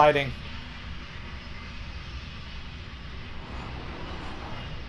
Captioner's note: train whistle